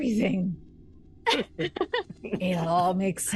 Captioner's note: everyone laughs